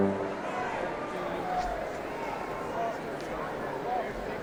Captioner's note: crowd chatting